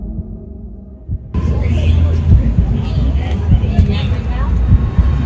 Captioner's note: dramatic sound as tape measure appears; heartbeat sounds